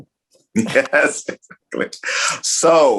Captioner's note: laughing